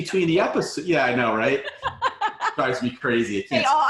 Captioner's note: laughing